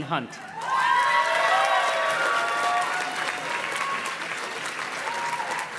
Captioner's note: audience cheers and claps